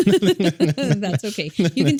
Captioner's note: both laughing